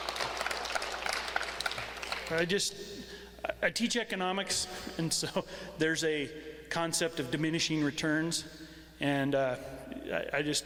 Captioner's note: applause